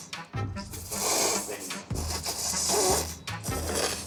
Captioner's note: slurping